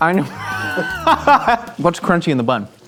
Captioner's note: laughing